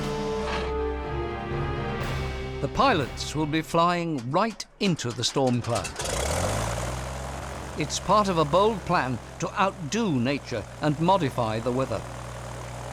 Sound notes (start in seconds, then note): 0.0 crescendo; 6.0 turbine rumbling